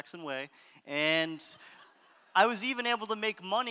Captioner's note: audience laughter